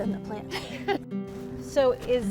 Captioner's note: light upbeat music; both laughing